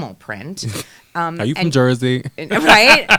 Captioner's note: laughing